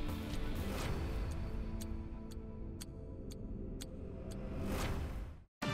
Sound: clock ticking

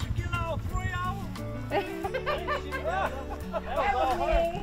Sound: indistinct conversation

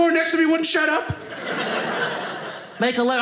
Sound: audience laughing

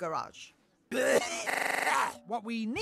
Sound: glitched coughing

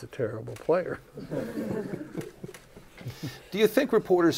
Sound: laughter

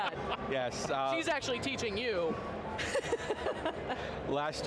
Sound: laughs

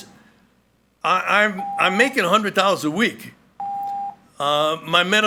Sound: timer beeping

